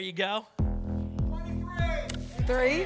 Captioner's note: audience shouting numbers